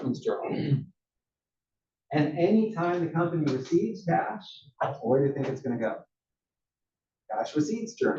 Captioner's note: cough